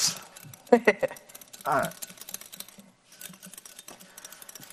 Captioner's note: laughs